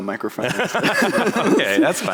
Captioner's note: laughter